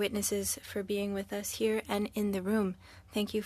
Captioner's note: speaking French